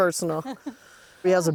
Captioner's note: laughing